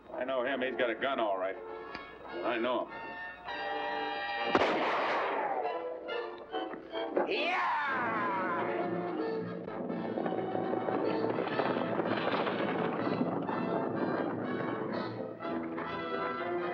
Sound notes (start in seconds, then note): 4.4 gunshot; 7.9 dramatic music; 8.7 hooves pounding; 14.1 dramatic music